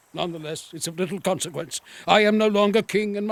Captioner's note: sighing